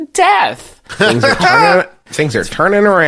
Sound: giggles

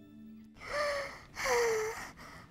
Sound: sighs deeply

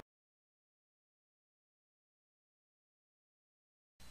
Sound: silence

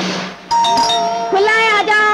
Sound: door Bell

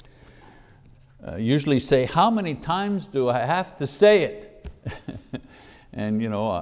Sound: laughs

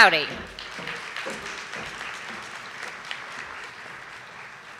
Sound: audience applauding

